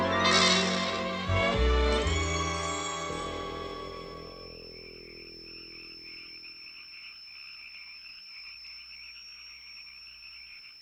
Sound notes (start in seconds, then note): 3.9 insects chirping